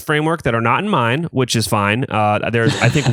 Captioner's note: laughs